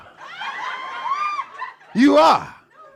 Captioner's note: audience cackles